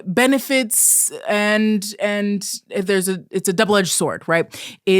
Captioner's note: stammering